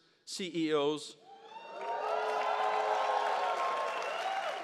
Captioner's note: audience cheers